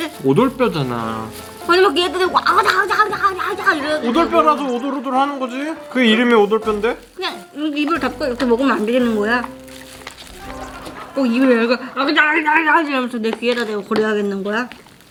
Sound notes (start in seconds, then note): 2.5 making chewing sound; 9.4 eating with mouth close